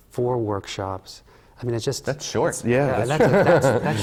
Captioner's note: laughs